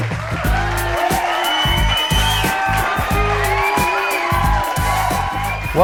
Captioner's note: cheering